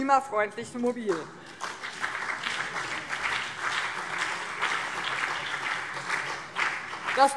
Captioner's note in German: Beifall BÜNDNIS 90/DIE GRÜNEN und vereinzelt CDU